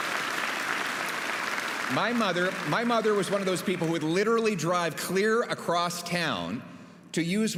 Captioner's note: applause